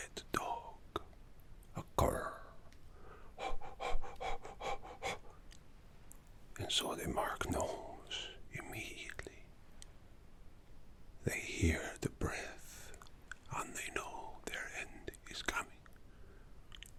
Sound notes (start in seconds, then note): 3.4 panting